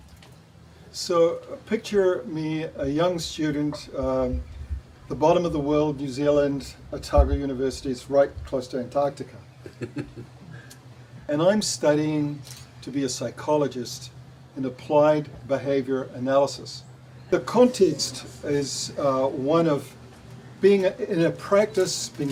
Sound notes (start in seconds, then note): 9.6 chuckles